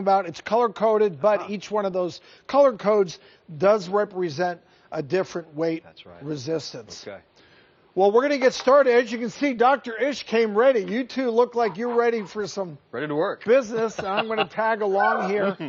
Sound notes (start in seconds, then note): 11.4 laughs